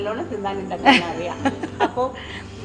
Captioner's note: laughter